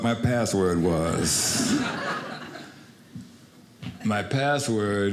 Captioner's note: audience laughing